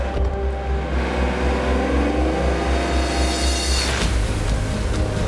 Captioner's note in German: Gang wird eingelegt; Motorengeräusche